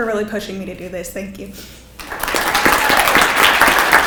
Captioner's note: people clapping